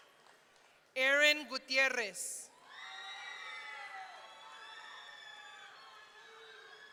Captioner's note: audience cheering